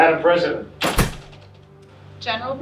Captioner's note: door shutting